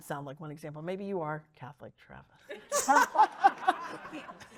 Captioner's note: laughs